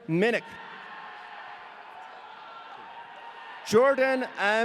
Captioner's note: audience cheering